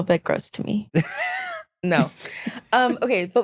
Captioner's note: laughing